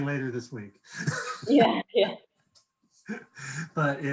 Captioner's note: laughing